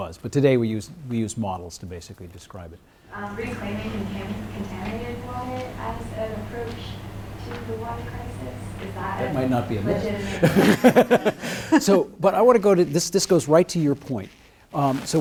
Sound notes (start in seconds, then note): 10.0 laughs